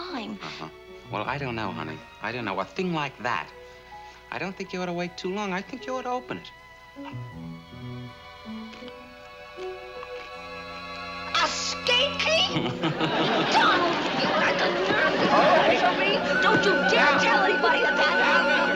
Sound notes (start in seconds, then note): 12.5 chuckles